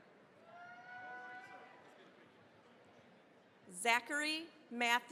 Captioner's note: cheering, applause